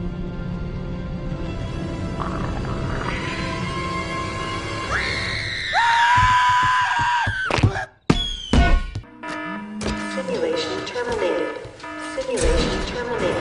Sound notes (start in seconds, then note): 5.5 kid screaming; 5.9 monster screaming; 7.4 soccer ball bouncing; 9.0 alarm sounding